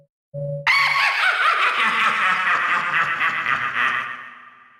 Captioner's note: laughing